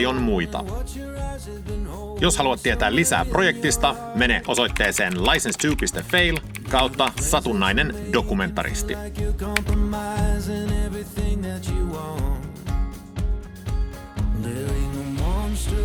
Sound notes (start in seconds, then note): 6.2 in Finnish